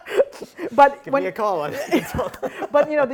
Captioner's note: laughing